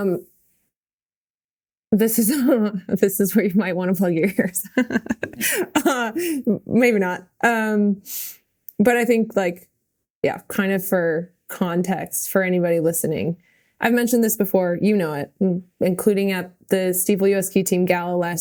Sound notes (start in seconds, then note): 4.2 Mikaela laughing